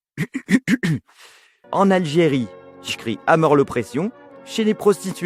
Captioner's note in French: tousse; accent français